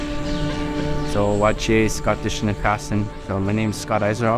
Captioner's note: speaking in Omushkegowin